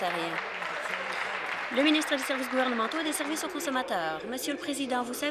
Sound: applause

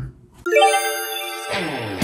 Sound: upbeat music; twinkling

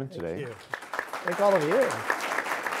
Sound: audience applause

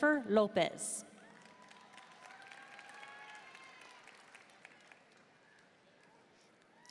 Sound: audience cheering and applauding

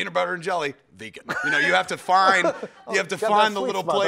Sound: laughs

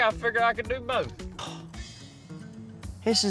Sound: scoffs

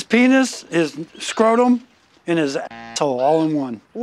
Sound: buzzer

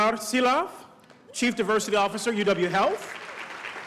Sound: applause

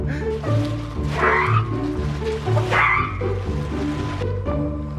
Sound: makes squawking noises

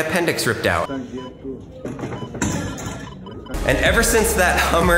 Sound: medical equipment beeping

